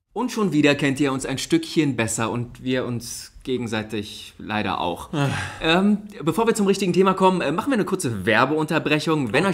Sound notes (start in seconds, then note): 5.0 moans